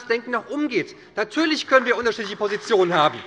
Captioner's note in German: Beifall bei der SPD